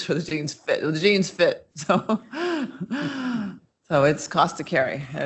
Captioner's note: chuckles